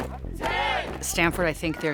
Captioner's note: music swells; people shouting happily; marching footsteps